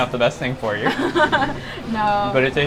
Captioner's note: laughs